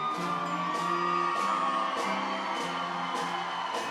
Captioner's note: audience cheering